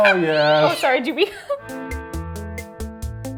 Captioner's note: shrieks; meows